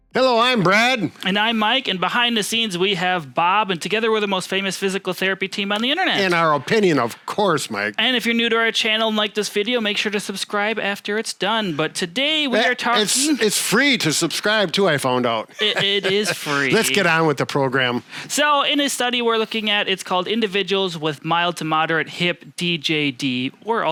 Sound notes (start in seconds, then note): 15.5 laughs